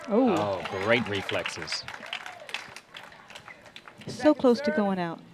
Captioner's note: applause